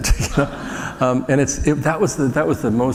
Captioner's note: laughter